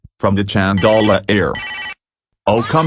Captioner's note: cheap Chinese ringtone